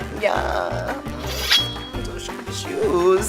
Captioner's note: sword unsheathing noise